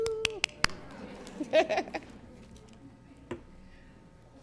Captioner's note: claps; laughs